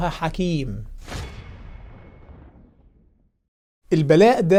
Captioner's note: sound effect